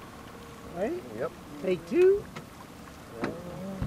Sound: fish splashing

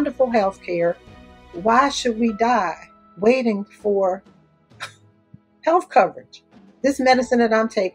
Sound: laughs

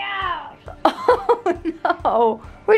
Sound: laughs

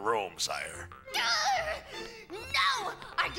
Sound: princess groans

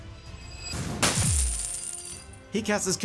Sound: coins clinging

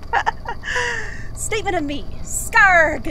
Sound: laughs

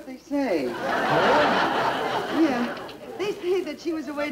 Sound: audience Laughing

